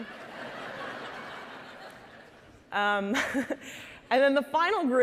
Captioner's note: audience laughing